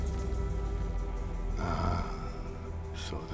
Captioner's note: scottish accent